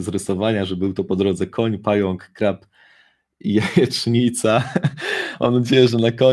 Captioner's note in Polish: śmiech